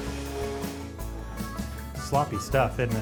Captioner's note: machine whirring